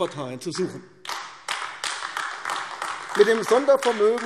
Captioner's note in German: Beifall AfD